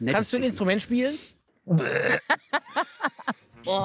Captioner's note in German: Rülpsen; Lachen